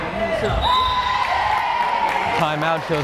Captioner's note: whistle blares